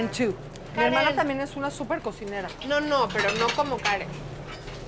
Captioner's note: speaking Spanish